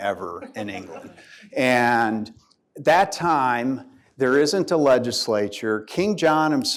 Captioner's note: laughter